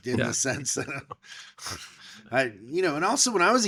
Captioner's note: laughing